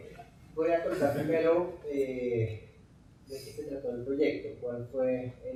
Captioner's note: speaking in Spanish